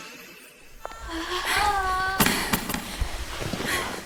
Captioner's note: all groaning